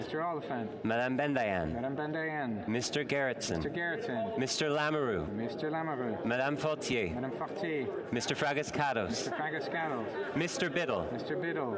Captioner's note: calling of recorded vote